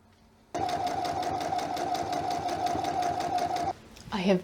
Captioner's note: sewing machine noises